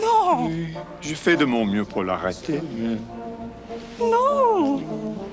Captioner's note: John speaks French